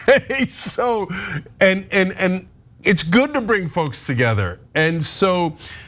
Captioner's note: laugh